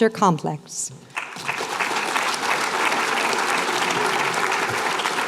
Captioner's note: applause